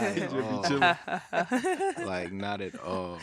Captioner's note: all laughing